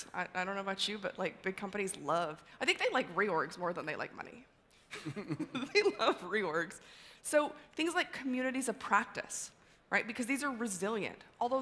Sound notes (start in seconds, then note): 4.9 laughter